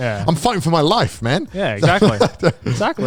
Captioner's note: laughs